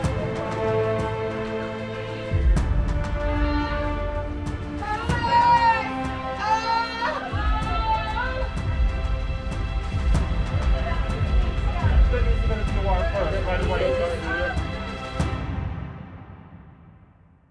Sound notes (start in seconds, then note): 0.1 sounds of movement; 2.3 screaming in fear and pain